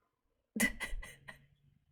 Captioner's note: laughs